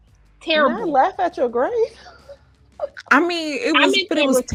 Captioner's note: laughing